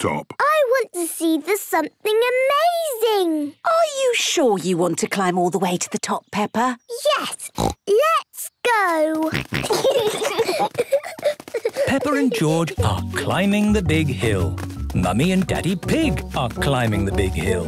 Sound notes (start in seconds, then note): 7.4 snorts; 9.2 snorting, giggling